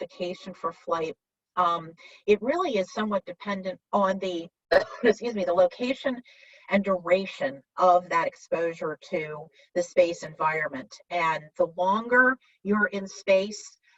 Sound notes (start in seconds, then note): 4.7 coughs